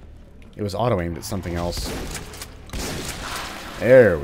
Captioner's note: shotgun blasting